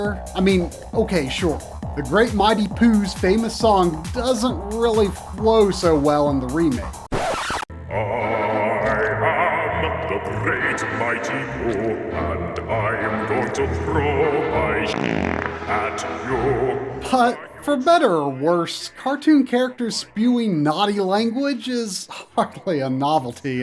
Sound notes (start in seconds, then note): 12.6 game audio